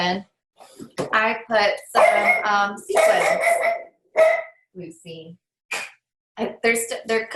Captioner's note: dog barking in background